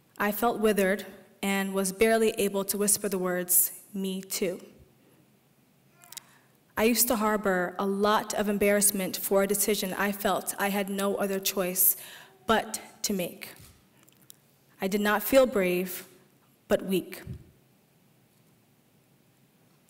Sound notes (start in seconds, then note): none